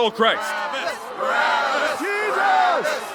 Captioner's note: crowd